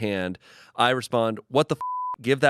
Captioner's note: beep